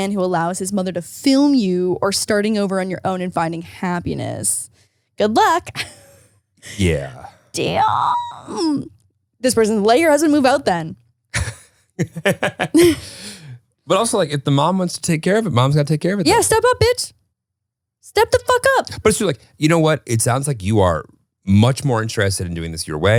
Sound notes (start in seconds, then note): 12.0 both laugh